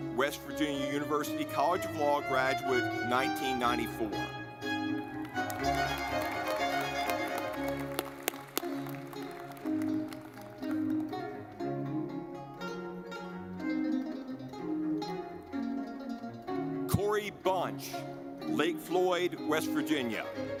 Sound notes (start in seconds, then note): 4.5 lively music; 5.0 audience clapping